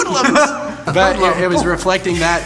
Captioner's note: laughing